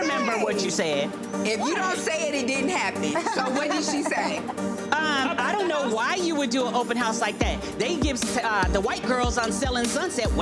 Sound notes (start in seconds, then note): 3.0 person laughing